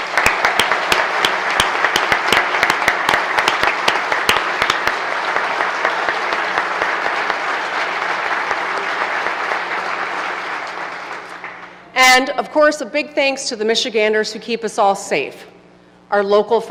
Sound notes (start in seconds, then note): 3.3 applause